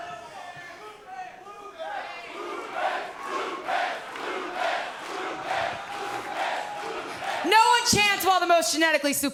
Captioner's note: fans chanting